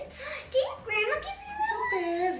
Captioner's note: gasps